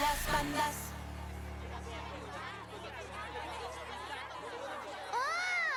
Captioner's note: shouting